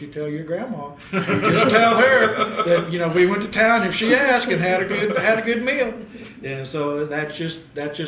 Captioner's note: laughter